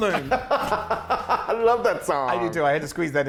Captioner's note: laugh